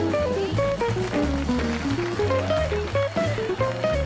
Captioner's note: crowd applauding